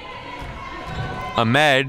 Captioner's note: crowd murmuring